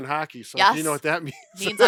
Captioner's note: laughing